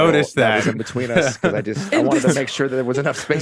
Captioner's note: laughs